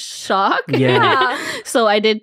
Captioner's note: laughing